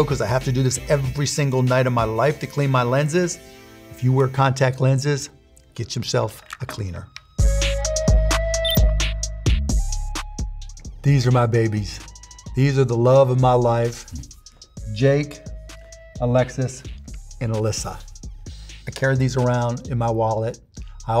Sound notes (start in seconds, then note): 7.4 upbeat music; 8.5 beeping; 9.6 upbeat music